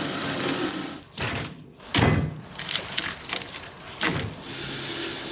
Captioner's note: logs thudding